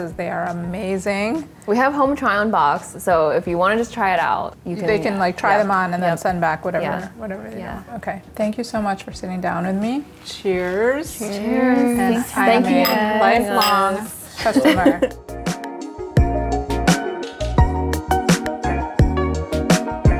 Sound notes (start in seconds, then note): 14.4 everyone laughs; 15.2 chill electronic music